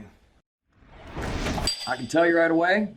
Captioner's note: air whooshing